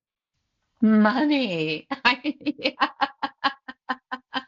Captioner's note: laughs